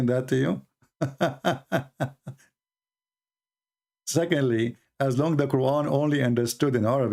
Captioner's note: Ketawa